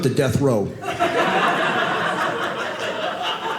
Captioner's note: audience laughing